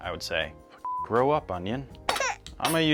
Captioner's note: beep